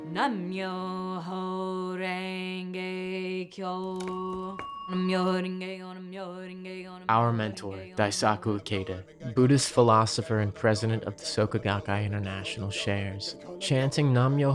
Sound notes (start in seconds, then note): 3.9 bell rings